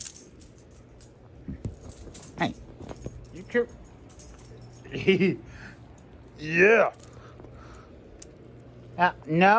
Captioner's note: laughs